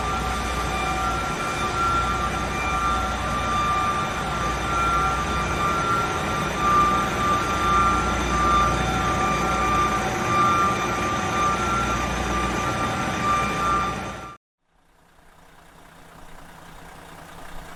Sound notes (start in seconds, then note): 9.2 alarm wailing continues; 14.9 engine revving